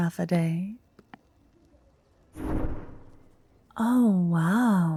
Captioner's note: light spell being cast